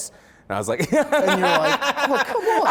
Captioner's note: laughs